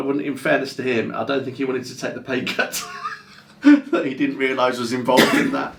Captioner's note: laughs